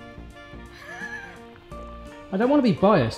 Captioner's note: laughing